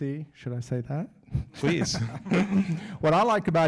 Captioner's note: laughs